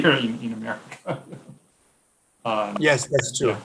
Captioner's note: laughing